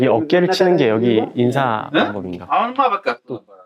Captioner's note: voice suddenly gets quieter